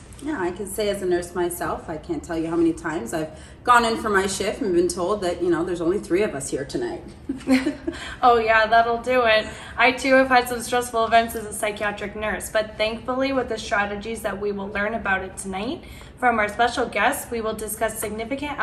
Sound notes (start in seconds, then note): 7.3 laughs